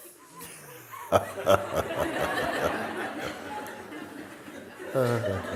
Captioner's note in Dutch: en sangha lachen